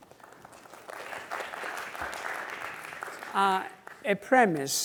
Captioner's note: audience clapping